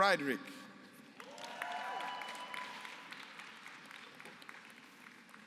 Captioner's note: applause